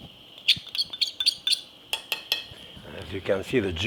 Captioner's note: spoon clinking